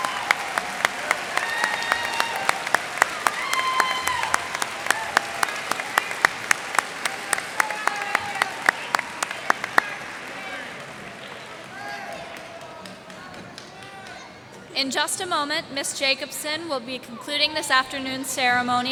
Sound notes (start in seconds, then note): 0.0 cheers and applause; 2.9 cheers and applause